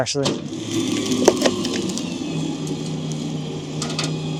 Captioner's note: trailer whirring